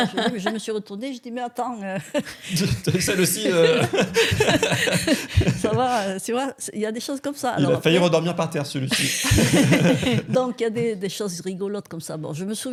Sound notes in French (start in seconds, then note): 0.0 rires; 2.0 rires